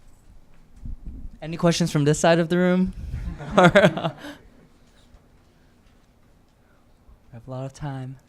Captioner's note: chuckles